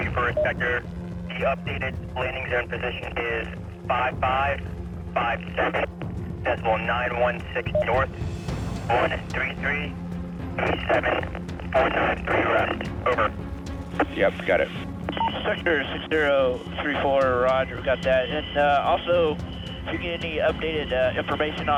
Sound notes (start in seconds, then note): 8.6 radio static